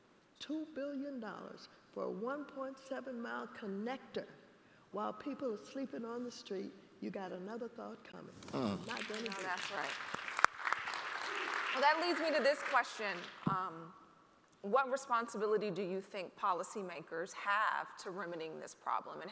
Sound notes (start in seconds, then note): 8.8 audience applauding